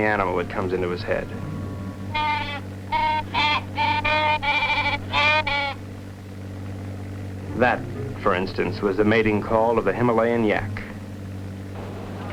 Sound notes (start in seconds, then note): 2.0 squawking